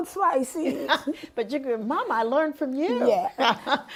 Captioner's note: laughing